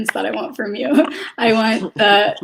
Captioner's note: laughs